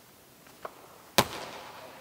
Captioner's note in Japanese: ボールをキャッチする音